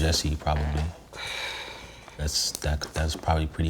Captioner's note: sighs